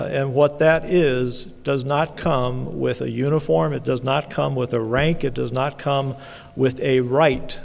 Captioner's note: none